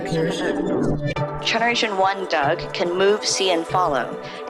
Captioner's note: AI Voice